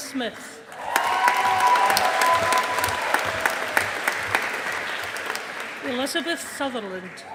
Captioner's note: audience applauding